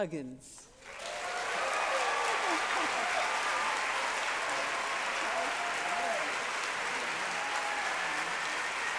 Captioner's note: applause